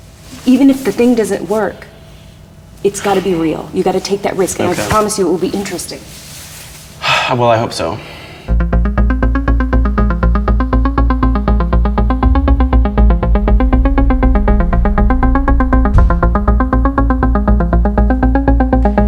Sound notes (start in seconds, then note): 7.0 sigh; 8.5 electronic music